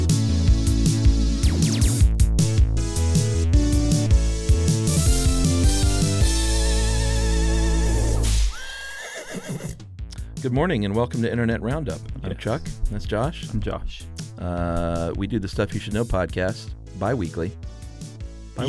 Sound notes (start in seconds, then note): 0.0 synthesizer music; 8.2 whip cracks; 8.5 horse whinnies